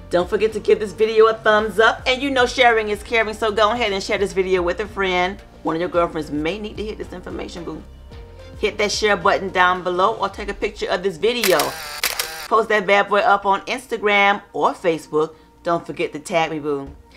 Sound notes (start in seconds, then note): 11.4 camera flashes